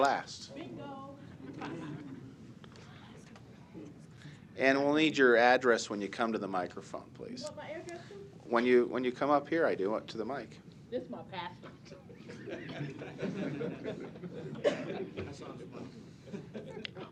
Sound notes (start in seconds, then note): 12.1 laughter